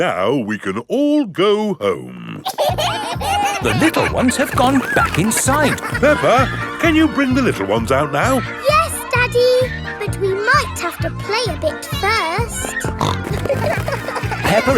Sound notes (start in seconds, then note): 2.9 kids giggling; 12.8 snorting